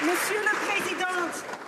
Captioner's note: some Applause